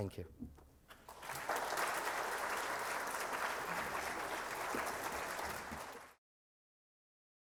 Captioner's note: applause